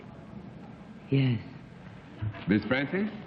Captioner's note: low-pitched